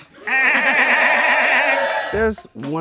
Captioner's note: audience cheers; laughs